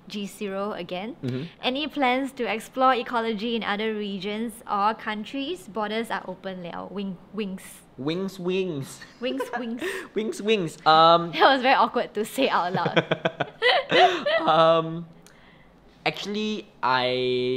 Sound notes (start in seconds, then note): 12.7 both laugh